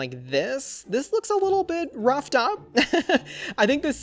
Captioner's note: laughs